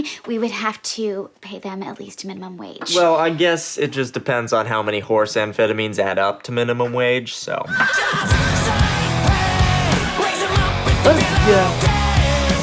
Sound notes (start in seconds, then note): 7.7 horse neighs